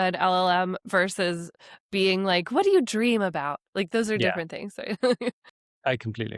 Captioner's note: laughs